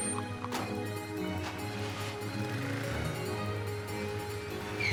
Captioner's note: engine turns over